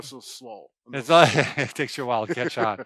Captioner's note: laughing